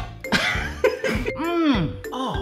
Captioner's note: laughs